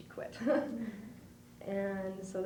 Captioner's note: laughs